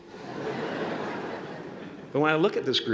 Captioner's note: laughter